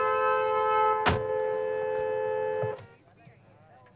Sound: car door closes

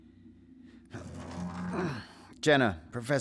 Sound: Spin grunts, wheel is stuck

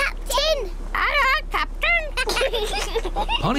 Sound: children giggle

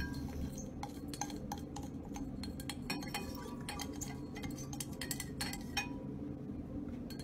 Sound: endless glass scraping sounds

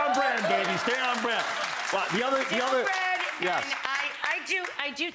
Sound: audience applauding

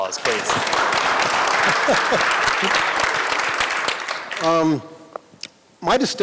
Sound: applause

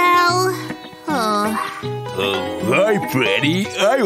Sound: sighs

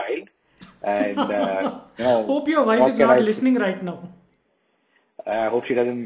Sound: laughs

